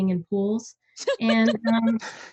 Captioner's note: everyone laughs